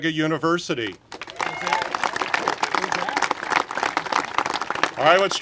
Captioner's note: congregation applaud